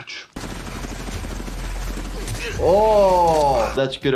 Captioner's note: helicopter whirring